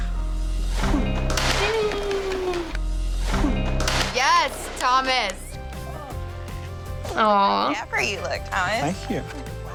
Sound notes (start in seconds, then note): 1.4 claps